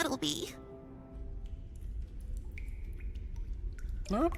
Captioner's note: water dripping